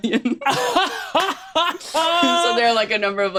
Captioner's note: laughs